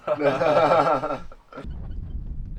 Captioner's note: laughing